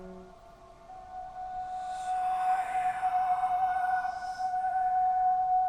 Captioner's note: whispers in Muinein language